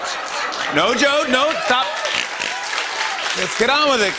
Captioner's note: laughter and applause